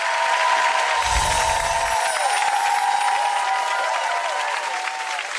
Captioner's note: chimes tinkling